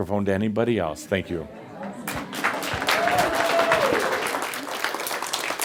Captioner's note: audience applause